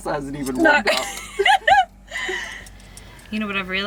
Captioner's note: laughing